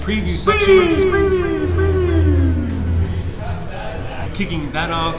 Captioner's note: echoing